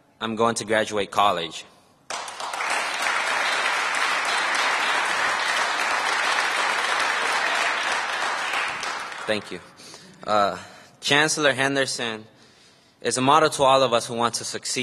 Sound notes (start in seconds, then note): 5.4 applause